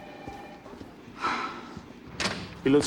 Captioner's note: sighs